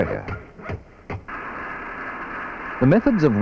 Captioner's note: sound of tools, machinery